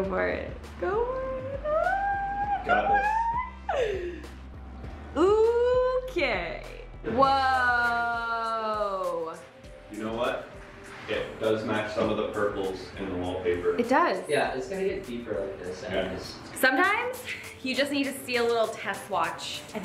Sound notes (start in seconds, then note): 1.6 squeals